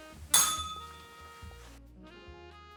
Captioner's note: bell rings